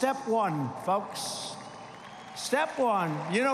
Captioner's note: applause